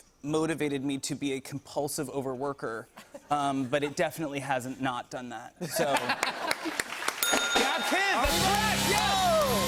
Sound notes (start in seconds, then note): 5.6 laughter; 7.2 ding